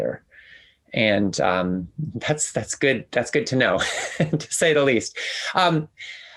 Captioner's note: laughs